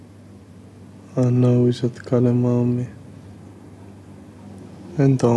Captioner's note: in arabic